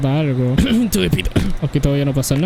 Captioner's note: ahem